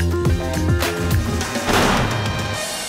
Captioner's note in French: coup de feu